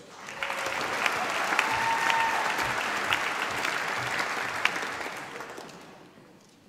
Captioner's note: applause